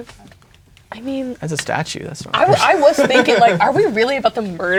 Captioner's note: laughing